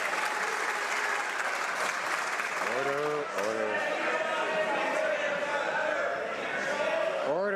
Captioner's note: some Applause